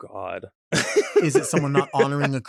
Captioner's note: laughs